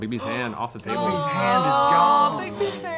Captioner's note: gasps